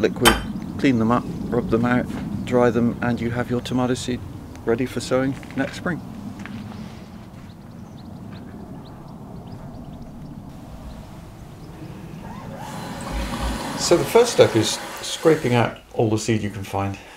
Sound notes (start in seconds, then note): 7.0 birds chirping; 11.7 water gushing